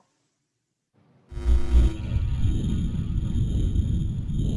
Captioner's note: buzzing